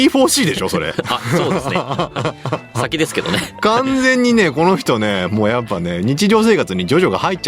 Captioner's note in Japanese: 笑い